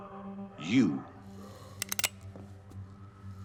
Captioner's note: gun clicks